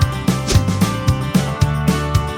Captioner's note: whoosh